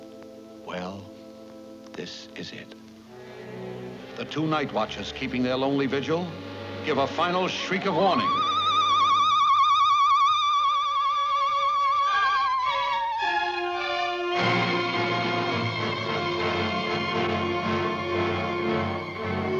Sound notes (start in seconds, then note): 7.5 owl shrieking; 12.6 dramatic music